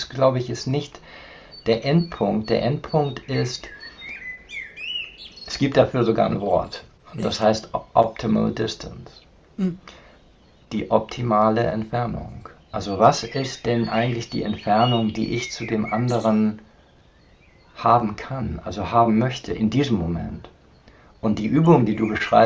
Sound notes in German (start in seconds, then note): 9.6 räuspern